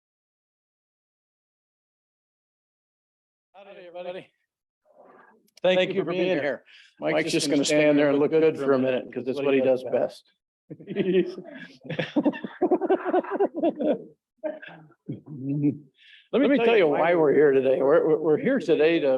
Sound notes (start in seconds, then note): 10.7 laughs